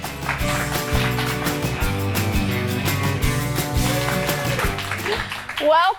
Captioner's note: audience applauding